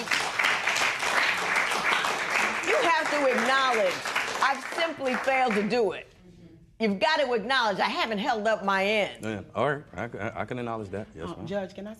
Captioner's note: applause